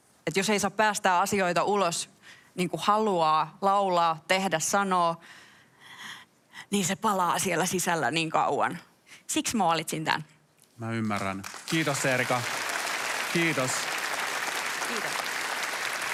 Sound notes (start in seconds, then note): 12.9 applause